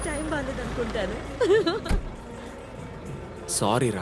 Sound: laughs

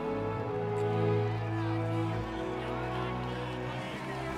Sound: cheering

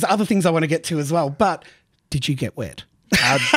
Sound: laughs

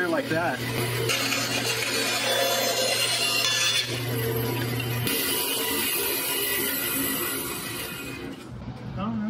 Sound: more cutting

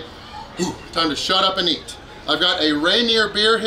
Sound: deep breath

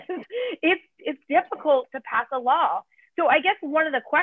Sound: laughter

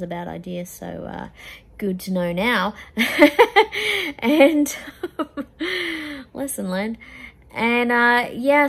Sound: laughs wryly

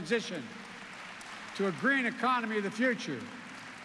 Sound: applause

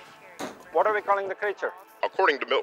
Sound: voice On Television

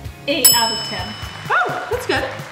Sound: bell dings

